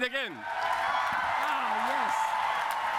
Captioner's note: cheering and applause